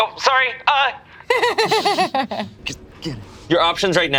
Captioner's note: laughs